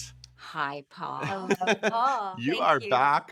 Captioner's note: laughing